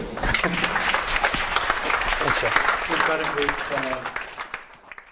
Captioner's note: audience applause